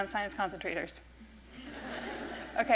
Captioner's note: laughter